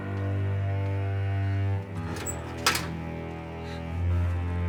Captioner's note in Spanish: Sollozos